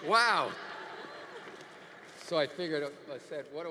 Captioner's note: audience laughing